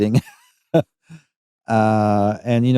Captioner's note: chuckles